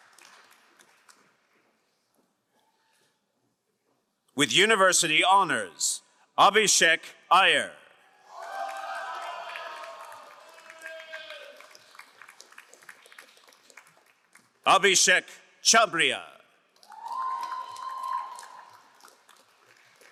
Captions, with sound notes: With university honors, Abishek Ayer. (crowd cheering and applauding) Abishek Chabriya. (crowd applauding)